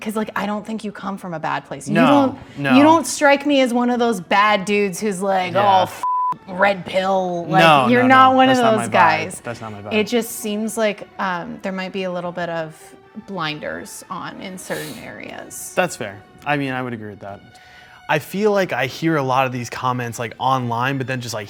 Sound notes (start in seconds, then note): 5.8 beep